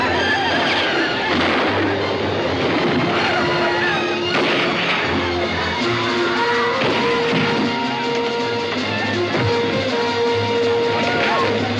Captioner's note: lNDlANS SCREAMlNG